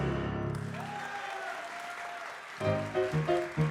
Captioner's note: audience applause